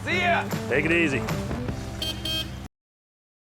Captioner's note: car honks